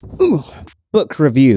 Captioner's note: grunt